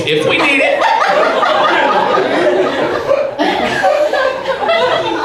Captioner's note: audience laughs